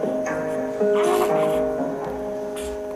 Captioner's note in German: Babylaute